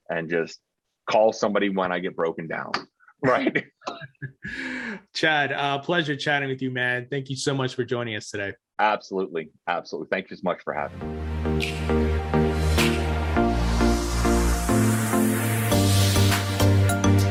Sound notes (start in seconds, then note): 3.2 both chuckling; 10.8 urban upbeat music